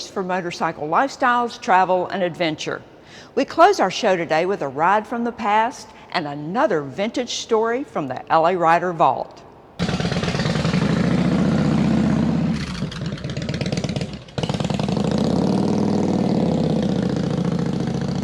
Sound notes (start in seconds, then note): 9.8 motorcycle engine revving